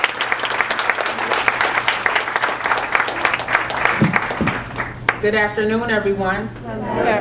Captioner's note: applause